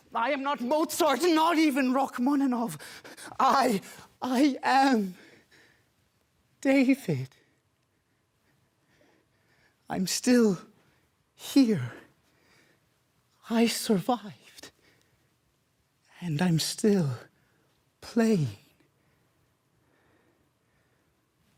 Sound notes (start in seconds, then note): 5.1 heavy breathing; 8.0 heavy breathing; 12.1 heavy breathing; 14.7 soft breathing; 18.8 soft breathing